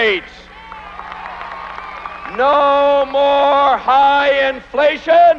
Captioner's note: applause